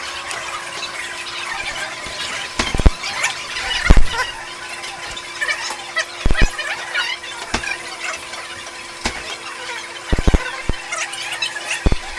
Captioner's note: <i>fast forwarding sounds</i>